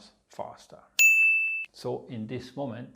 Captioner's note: pinging sound